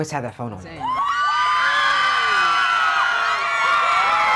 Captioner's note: fans screaming